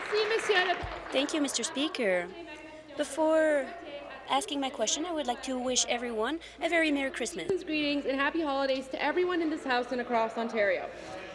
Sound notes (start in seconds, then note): 3.1 applause